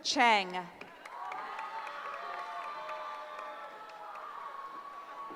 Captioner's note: cheering